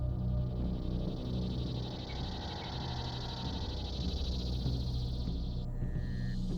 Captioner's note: cicadas droning